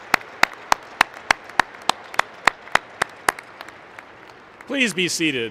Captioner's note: applause